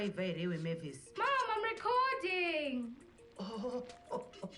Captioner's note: pot opens